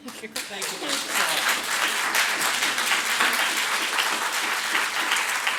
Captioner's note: audience applauds